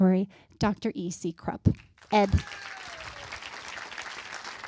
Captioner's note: applause